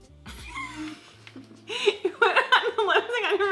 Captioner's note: laughs